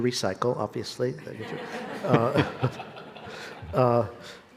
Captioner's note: people laughing